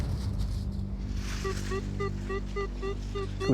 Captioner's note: beeping